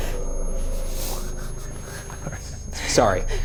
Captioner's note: eerie music; REM-Pod beeping